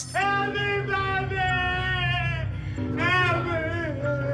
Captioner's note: shouting